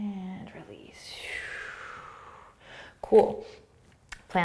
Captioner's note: exhaling